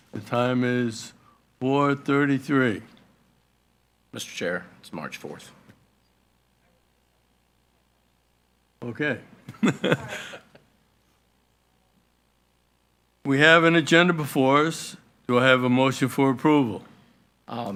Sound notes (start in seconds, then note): 9.5 laughing